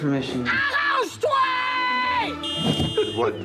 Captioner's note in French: klaxon